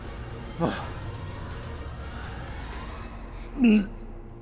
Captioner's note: aggressor grunting; Aggressor gagging